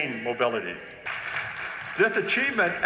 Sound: applause

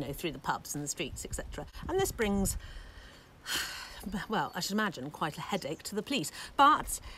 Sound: sigh

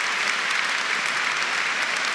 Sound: applause

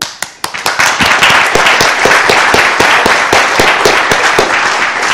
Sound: audience applauding

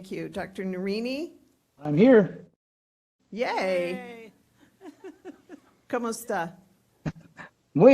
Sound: laughing; laughing

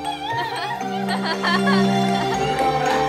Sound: cheerful yelling with laughing in the background

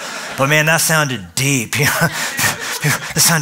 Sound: laughter

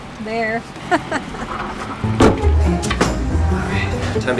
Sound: laughing

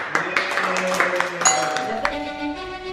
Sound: clapping and cheering; doorbell ringing; orchestral violin music

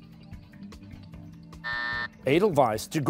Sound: buzzer

